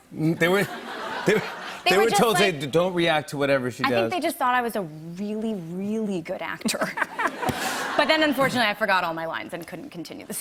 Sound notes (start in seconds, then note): 0.5 laughter; 6.6 laughter